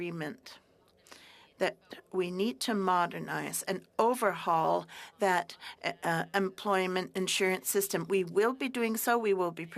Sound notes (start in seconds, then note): 7.7 speaking french